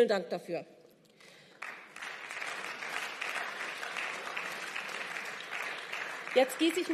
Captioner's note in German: Beifall